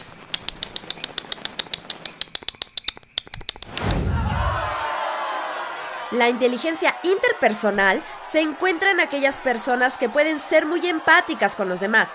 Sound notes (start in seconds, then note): 0.0 making bat noises; 4.0 people cheering